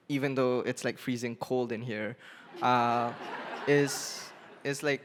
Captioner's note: laughing